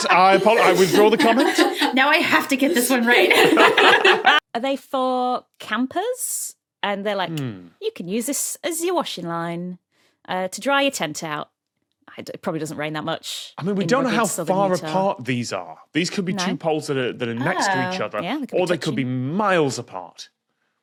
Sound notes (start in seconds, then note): 3.7 guests giggling